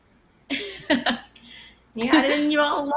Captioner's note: laughs